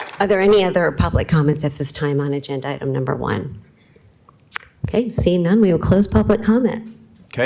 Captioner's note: applause